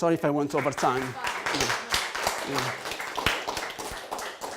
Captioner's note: applause